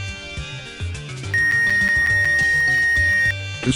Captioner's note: more beeps of the x-ray